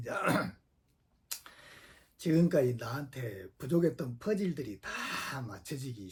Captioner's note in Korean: 목을 가다듬음